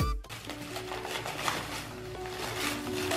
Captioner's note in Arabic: حفيفات لف ساران; موسيقى لطيفة